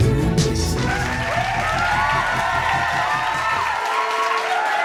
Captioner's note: cheers and applause